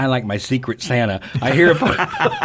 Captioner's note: all laugh